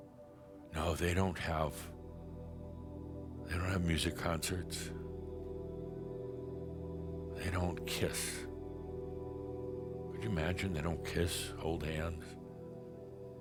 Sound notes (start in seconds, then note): none